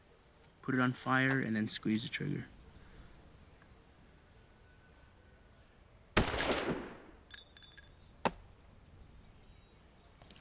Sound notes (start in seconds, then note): 6.2 fires; 7.7 bullet hits target